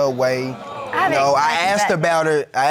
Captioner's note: crowd boos